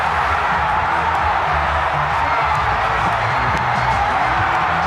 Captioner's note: cheers and applause